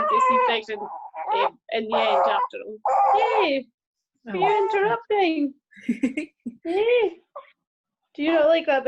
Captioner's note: baby noises